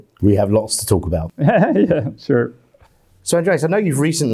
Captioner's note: laughs